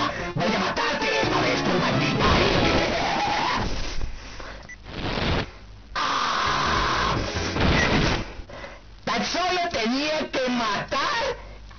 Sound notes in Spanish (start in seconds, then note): 2.4 risa malévola; 3.8 respiración